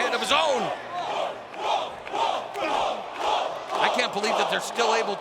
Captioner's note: fans chanting